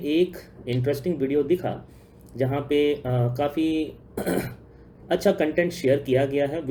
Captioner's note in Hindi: गला साफ़ करने की आवाज़